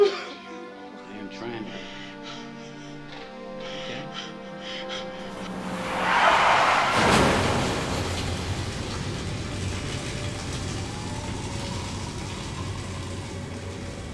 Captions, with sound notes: (P.J. crying) I am trying. Okay? (tires squealing) (car crashing) (sizzling) (tense music)